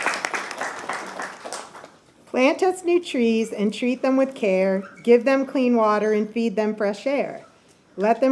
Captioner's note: applause